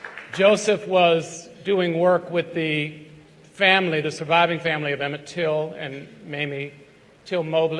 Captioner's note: applause